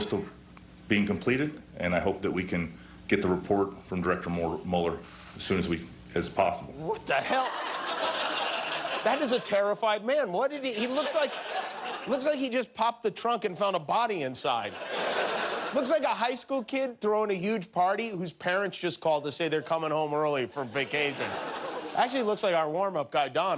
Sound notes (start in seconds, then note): 10.6 laughter